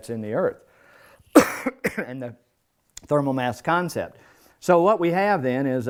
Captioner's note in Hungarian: köhögés